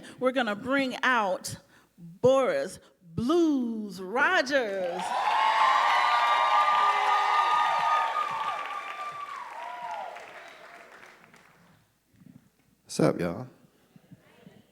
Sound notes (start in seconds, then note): 4.9 audience applauding and cheering